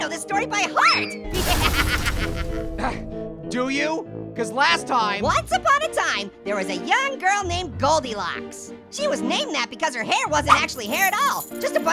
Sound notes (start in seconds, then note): 1.3 Orange laughing